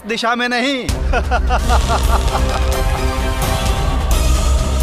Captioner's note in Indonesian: tertawa